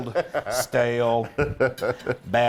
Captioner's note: laugh